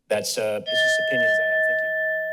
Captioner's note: bell rings